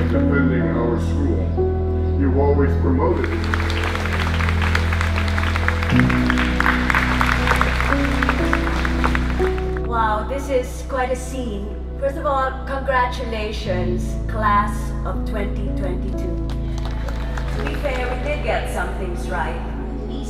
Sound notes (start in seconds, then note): 3.1 audience claps